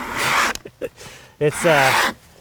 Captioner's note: tool scrapes; laughs